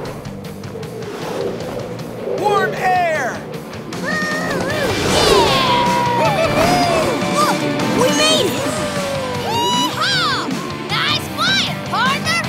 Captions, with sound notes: Warm air! [mooing] -Yeah! -Woo hoo hoo! Look, we made it! Yee haw! Nice flying partners!